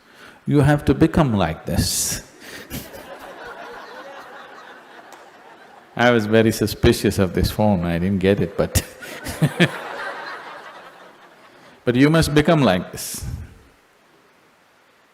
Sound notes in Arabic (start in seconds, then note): 2.6 ضحك; 8.5 ضحك